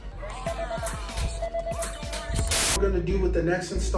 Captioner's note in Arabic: الناس يتحدثون بهدوء